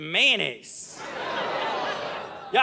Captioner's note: audience laughing